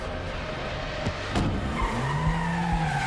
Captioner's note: tires squeal